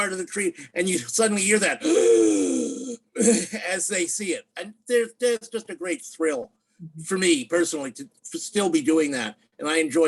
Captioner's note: gasp